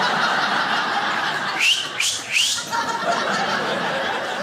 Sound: crowd laughs; whistles

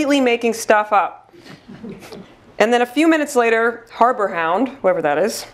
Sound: laugh

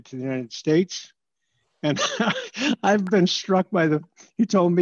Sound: laughter

